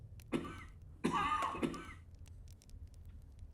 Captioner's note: coughing; fire crackling